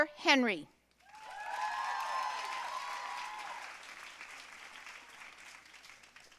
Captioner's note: audience cheering and applauding